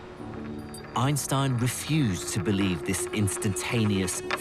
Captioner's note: voiceover